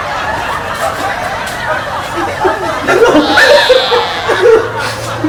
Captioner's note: laughing